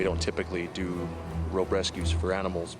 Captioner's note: voiceover